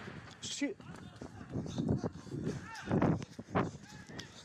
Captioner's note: explosion roars; holidaymaker speaks foreign language